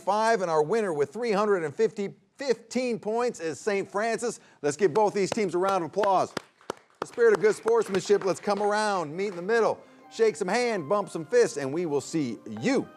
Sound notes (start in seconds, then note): 5.6 everyone applauds